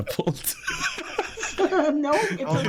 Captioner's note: laughing